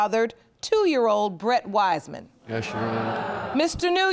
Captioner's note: audience groans